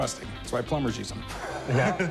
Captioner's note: laughs